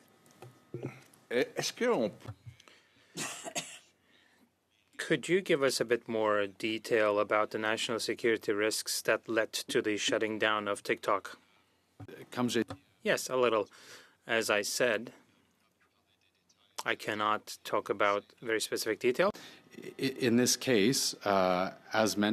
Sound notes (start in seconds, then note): 5.3 speaking French